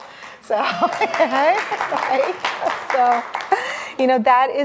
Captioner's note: audience cheering and applauding